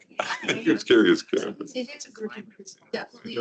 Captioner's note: participants chattering; participant chuckling; mic rustling muffles speaker; participants chattering